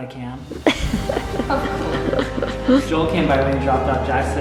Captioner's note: laughs